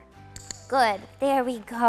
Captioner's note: clicker clicks